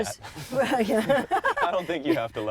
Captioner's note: all laughing